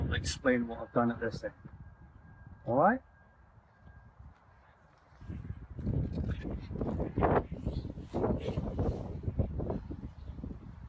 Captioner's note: extreme wind noise